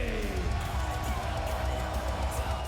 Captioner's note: applause